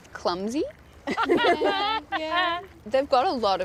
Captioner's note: all laugh